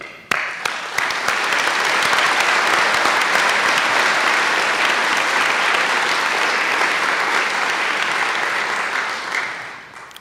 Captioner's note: applause